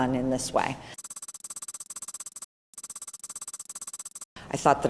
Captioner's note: keyboard tapping